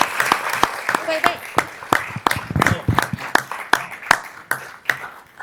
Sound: cheers and applause

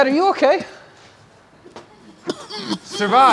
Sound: coughing

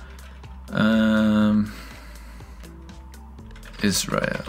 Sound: groans

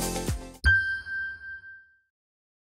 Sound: bright music; ding reverberates

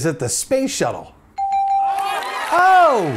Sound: bell rings / audience applauds

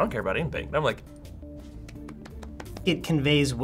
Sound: light applause

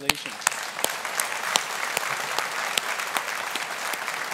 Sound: audience applauding

